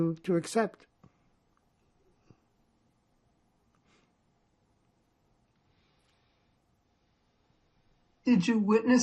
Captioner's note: pauses 6 seconds